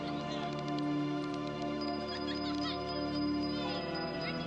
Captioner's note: clicking